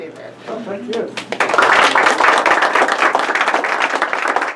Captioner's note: crowd applause